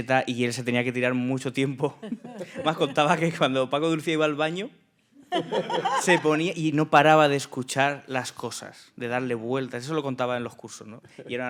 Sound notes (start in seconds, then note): 0.2 speaking in Spanish; 5.3 laughing; 6.3 speaking in Spanish